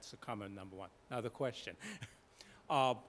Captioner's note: laughs